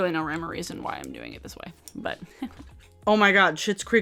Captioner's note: laughs